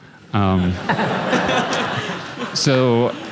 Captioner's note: laughter